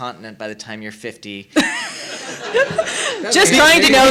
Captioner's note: laughing